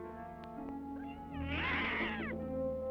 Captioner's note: cat meows